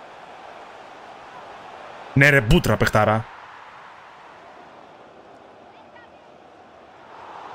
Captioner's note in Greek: χειροκρότημα